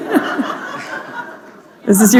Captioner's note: laughter